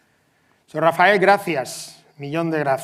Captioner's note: speaks in foreign language